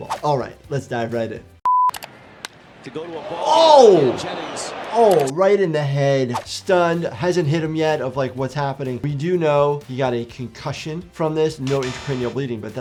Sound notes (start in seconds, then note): 1.6 beep